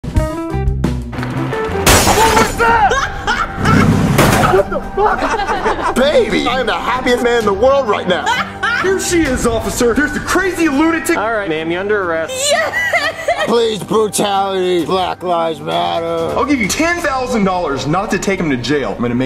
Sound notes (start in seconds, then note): 0.4 upbeat music; 1.8 glass shutters; 2.7 Rosalina laughing hysterically; 4.3 car banging; 6.0 Marvin laughing loudly; 8.2 Rosalina laughing loudly; 12.4 Rosalina crying loudly